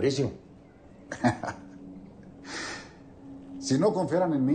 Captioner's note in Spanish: Risas